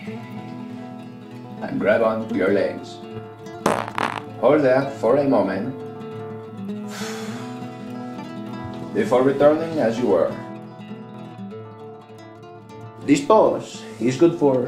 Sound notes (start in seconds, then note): 3.6 fart